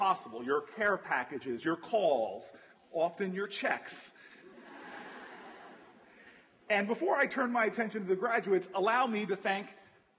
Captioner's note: laughter